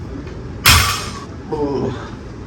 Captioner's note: weight clanks